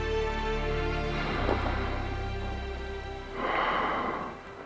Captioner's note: water spraying